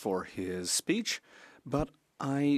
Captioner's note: speaking French